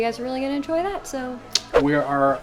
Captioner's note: clicks tongue